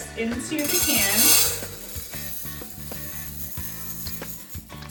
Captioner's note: rice rattling